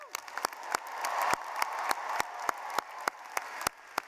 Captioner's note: clapping